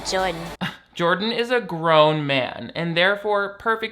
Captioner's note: scoffs